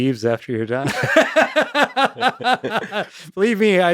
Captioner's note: both laughing